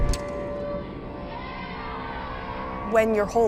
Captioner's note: people cheering